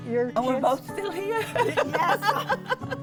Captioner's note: laughs